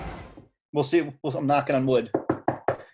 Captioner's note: faint knocking